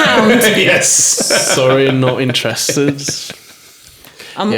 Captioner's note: laughing